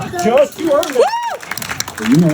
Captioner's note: people cheering